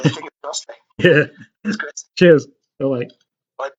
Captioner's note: laughs